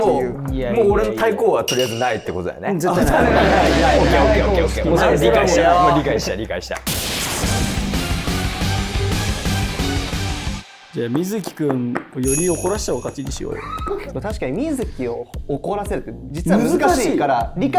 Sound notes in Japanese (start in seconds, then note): 13.6 スタッフ：笑い